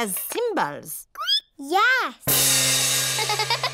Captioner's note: squeaks; giggles